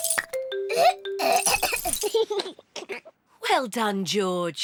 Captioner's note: splutters; giggles